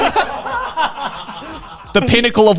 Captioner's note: everyone laughing